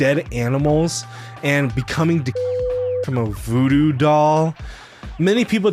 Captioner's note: beep